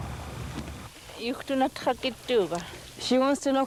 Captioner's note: speaking yupik